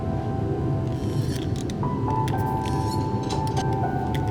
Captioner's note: creaking